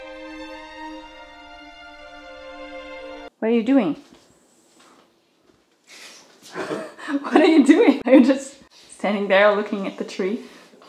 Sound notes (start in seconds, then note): 6.4 both softly laughing